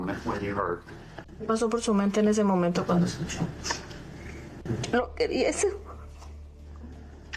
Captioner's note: interpreter and mom speaking in native language